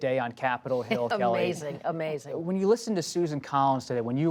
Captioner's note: laughs